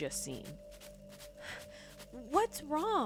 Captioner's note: panting